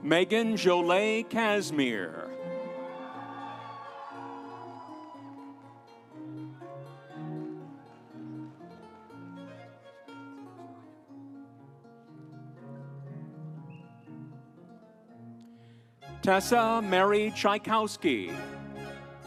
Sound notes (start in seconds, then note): 2.2 audience cheering; 3.1 instrumental music; 19.0 instrumental music